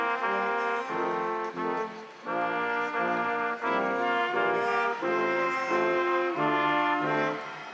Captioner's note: instrumental music continues; crowd applauding